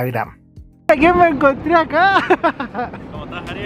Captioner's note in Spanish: risas